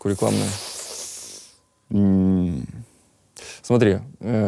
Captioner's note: inhales with a hiss